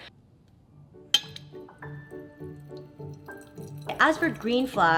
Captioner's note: water trickles